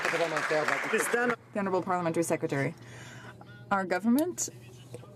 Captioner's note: some Applause